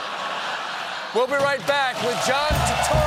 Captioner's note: laughter